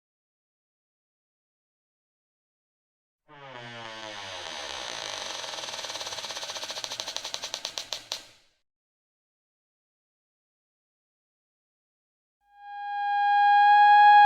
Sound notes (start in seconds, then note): 3.3 door Creaks